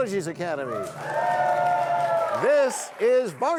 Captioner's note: cheers and applause